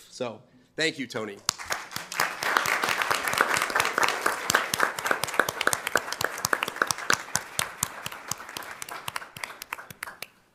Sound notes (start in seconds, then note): 1.8 crowd clapping